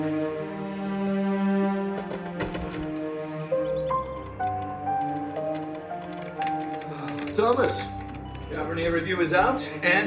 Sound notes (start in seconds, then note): 4.9 typing